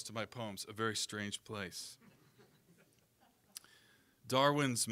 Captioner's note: audience chuckling